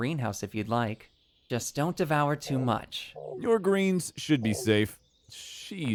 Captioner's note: reassuring